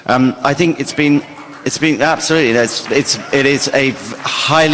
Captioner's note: applause